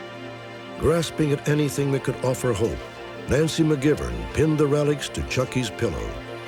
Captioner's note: none